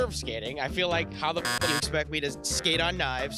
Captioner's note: beep